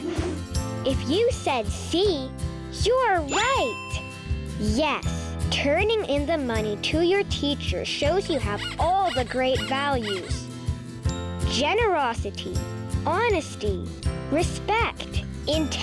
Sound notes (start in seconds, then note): 0.3 air whooshing; 3.9 bell dinging; 8.1 bunny squeaking